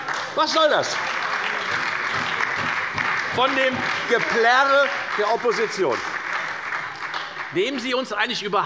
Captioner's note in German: Beifall bei der FDP, der SPD und der LINKEN